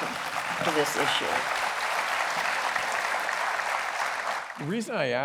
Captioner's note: applause